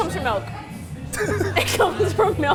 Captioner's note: both laughing